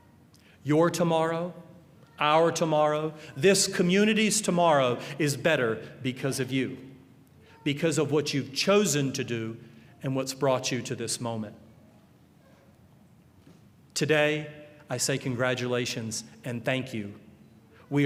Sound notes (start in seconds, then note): none